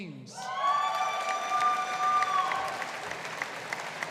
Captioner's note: audience applauding